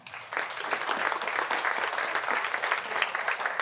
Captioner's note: applause